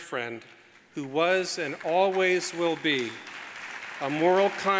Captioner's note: audience applauds